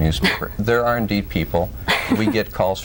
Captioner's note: laughs